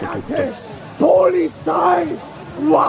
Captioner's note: guy yelling in German